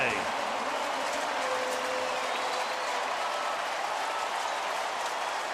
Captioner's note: pa announcement